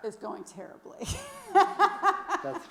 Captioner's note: laughs